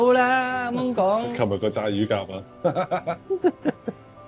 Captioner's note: laughs